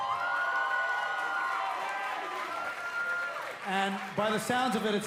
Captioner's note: cheers & applause